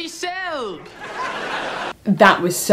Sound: laughs

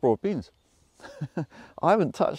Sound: host chuckling

